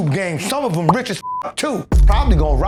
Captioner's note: beep